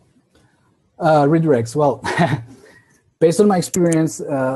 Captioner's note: laughs